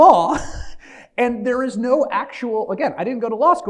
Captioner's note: laughs